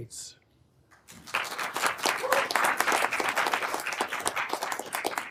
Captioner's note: everyone applauding